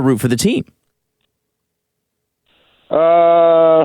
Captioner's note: dead silence